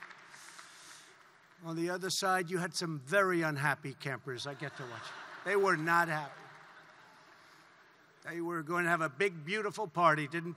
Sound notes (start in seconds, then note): 4.5 laughter